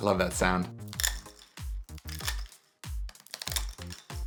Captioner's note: straws cracking